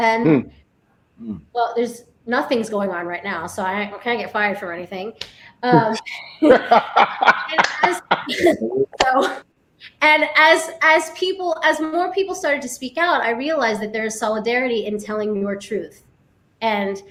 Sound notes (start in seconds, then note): 6.2 laughing